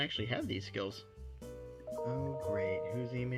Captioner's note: notification chime